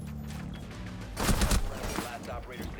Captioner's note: gunshots